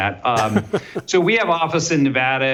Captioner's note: laughs